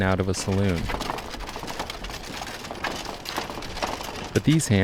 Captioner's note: wheels rattling